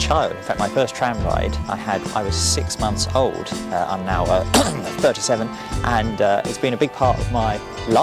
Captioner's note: coughs